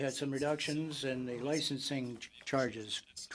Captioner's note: speaking French